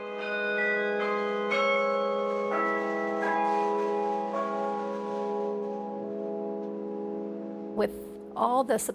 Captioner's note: bells ringing